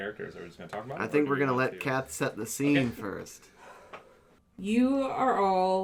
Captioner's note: exhales, centering themself